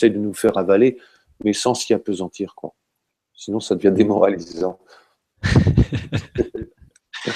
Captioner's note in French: rires